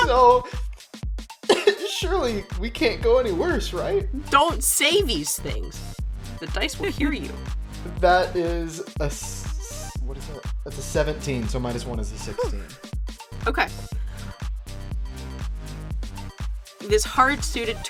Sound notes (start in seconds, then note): 13.9 sighs; 14.3 club Music